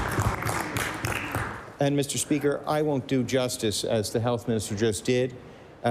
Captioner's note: applause